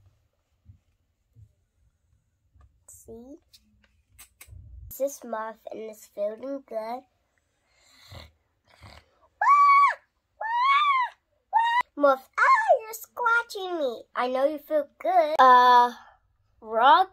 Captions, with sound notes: See? This is Muff and he's feeling good (making purring sounds) (screaming) "Muff ou you're scratching me" I know you feel good